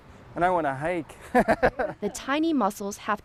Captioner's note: laughing